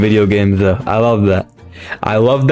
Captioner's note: inhales Oxygen